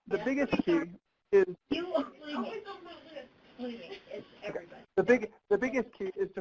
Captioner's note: audio warps, voices cut in and out